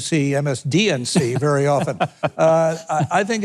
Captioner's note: Mike chuckles